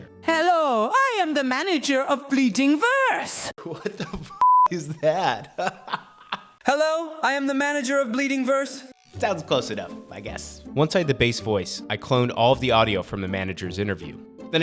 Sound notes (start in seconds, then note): 4.7 laughs